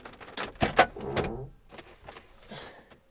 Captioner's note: glovebox creaks open